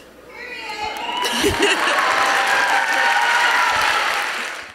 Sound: audience applauding

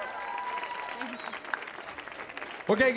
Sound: audience applauding

